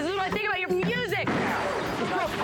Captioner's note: crashes